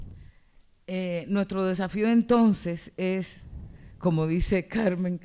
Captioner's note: speaking spanish